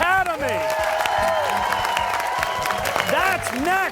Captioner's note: cheers and applause